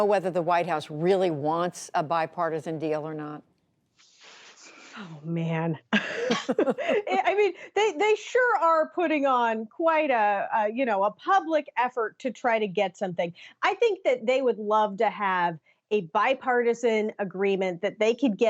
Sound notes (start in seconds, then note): 5.9 laughter